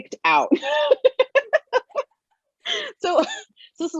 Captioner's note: laughs